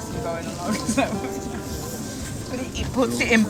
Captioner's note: laughing